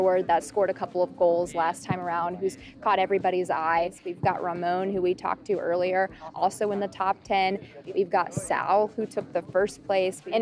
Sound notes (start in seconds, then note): none